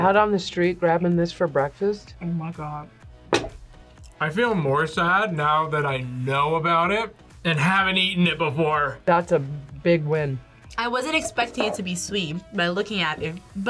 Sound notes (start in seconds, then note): none